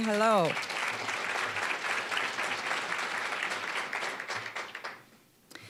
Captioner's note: applause